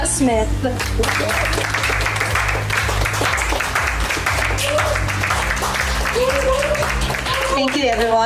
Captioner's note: applauding, cheering